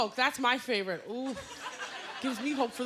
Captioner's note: laughter